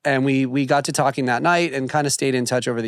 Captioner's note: none